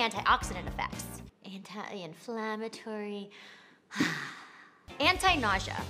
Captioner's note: deep sighing